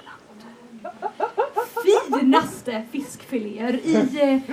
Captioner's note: laughter